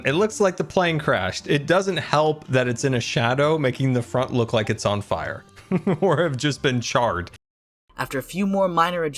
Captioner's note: laughs